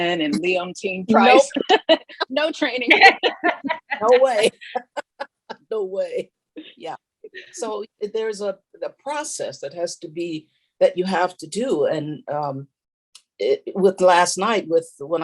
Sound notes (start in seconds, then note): 2.8 all laughing; 5.4 laughs